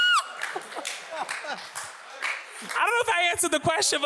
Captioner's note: audience applauds